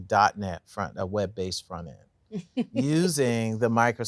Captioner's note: laughs